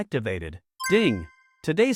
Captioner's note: ding!